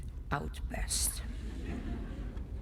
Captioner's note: laughter